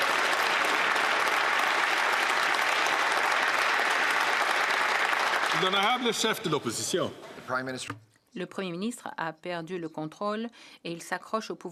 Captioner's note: some Applause